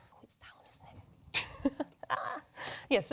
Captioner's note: chuckles